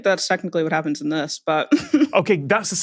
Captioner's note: snickers